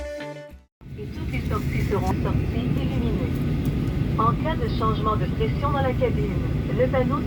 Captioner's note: announcement in French